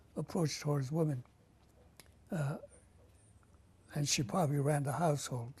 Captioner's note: pauses for 3 seconds